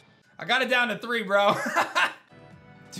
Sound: laughs

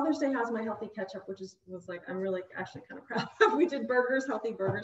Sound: chuckles

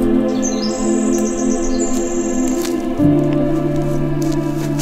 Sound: birds chirping; peaceful music

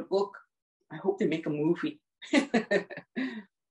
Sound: laughs

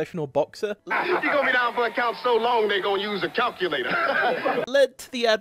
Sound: laughs in your face

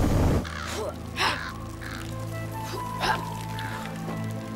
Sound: grunting

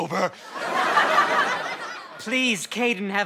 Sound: audience laughter

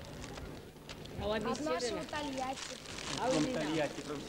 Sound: russian

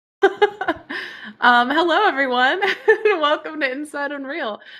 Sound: laughs

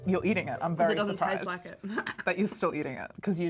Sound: laughs

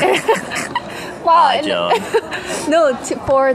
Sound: sarcastically

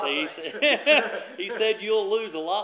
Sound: laughter

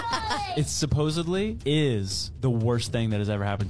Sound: laughing

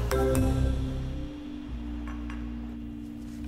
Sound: glasses clinking

